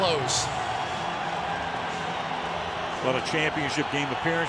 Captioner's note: cheering